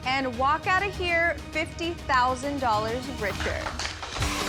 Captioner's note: applause